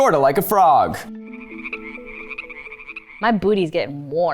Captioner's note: frogs croak